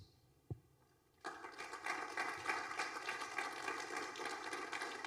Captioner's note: applause